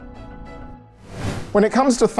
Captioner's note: air whooshing